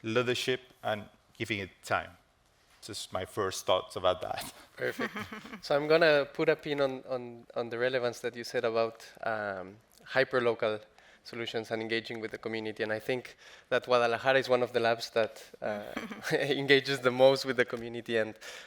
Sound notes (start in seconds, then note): 4.8 chuckles